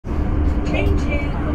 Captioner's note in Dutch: metro geluiden